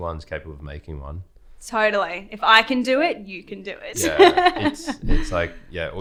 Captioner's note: laughing